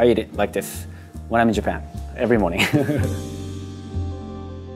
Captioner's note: laughing